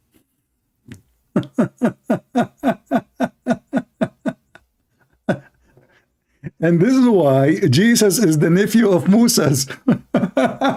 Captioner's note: Ketawa